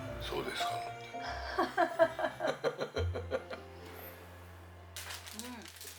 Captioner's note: laughs